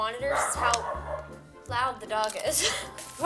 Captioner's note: dog barking; laughs